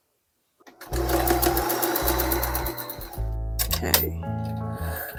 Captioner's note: sewing machine noises